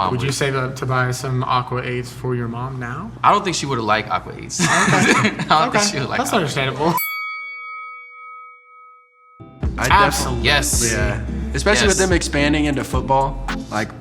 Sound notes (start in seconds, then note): 4.6 laughing quietly; 6.9 bell chime